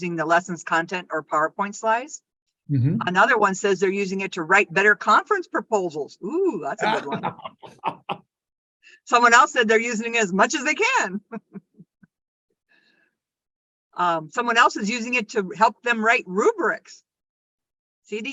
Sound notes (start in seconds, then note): 6.7 laughs; 11.1 laughs